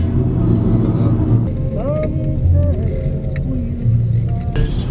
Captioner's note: wind crackling; radio playing